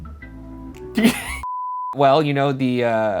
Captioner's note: chilled music; laughs loudly